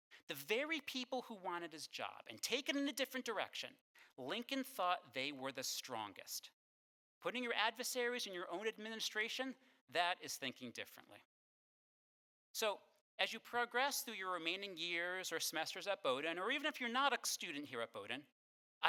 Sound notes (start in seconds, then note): none